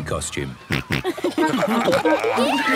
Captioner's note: snorting, giggling